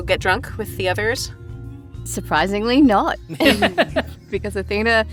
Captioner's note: laughs